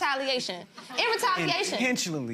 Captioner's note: gallery laughs